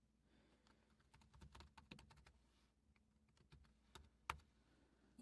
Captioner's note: typing